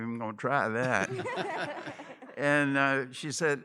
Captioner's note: laughter